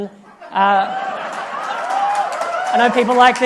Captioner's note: applause